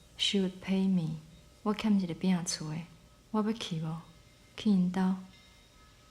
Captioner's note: speaks Taiwanese